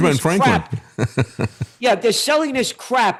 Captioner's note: laughing